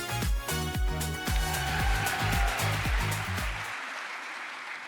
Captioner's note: crowd applause